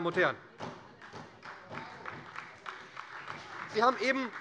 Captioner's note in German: Beifall bei der SPD